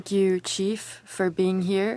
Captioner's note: speaking French